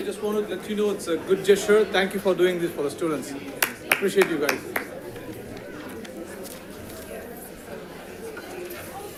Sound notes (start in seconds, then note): 5.6 crowd chatting